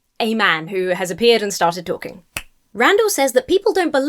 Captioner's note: snaps fingers